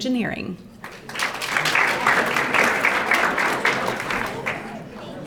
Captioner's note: audience applauding